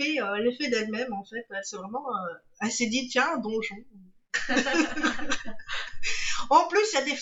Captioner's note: beautiful laughs